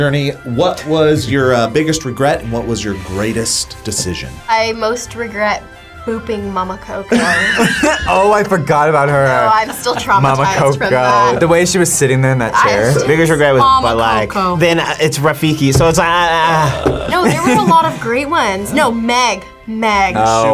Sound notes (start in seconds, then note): 7.1 both laugh